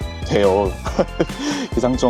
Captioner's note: laughter